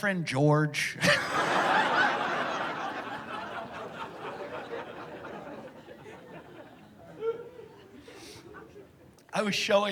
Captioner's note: laughter